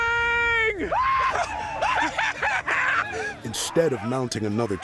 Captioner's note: men cheering